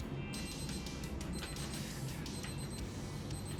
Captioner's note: alarm ringing